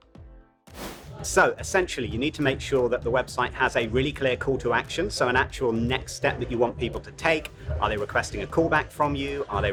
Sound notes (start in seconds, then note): 0.7 abrupt swooshing